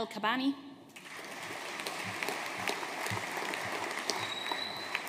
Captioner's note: audience applauding